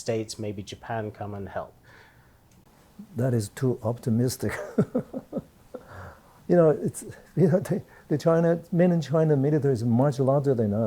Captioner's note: laughs